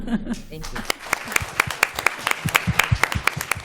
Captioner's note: applause